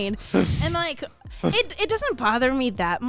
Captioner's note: laughs